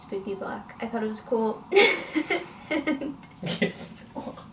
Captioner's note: laughs